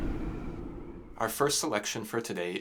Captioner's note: winter wind blows